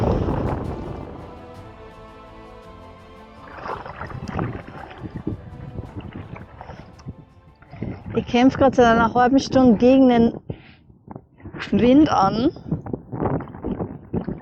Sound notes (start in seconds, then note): 0.0 strong wind, paddling & Viking battlefield music; 7.8 wind; 13.4 wind